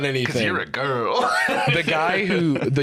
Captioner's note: laughs